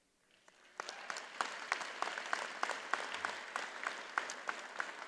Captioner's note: audience applauds